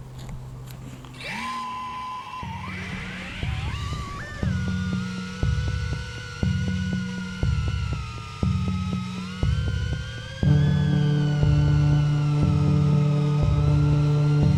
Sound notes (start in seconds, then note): 1.1 drone sounds